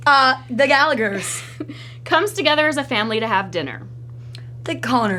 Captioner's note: laughs